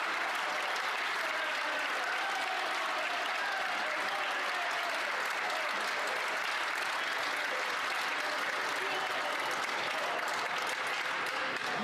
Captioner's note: some Applause